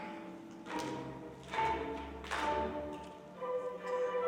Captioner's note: dancers clap